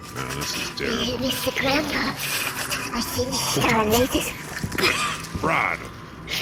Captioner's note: hissing slurpily